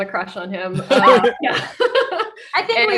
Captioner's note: group laughing